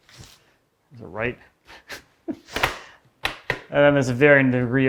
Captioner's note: laughs